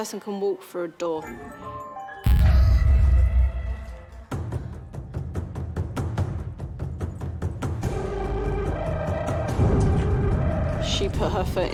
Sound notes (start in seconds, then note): 2.7 gasps; 5.0 suspenseful